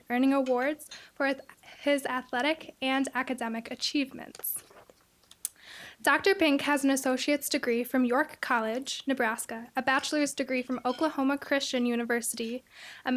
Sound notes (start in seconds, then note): none